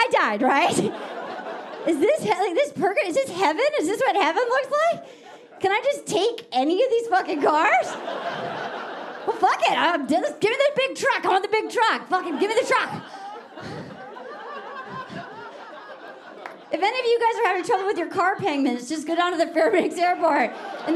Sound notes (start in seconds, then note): 7.2 audience laughing; 13.6 audience laughing